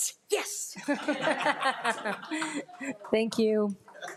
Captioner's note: audience laughs